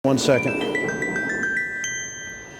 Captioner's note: phone ringing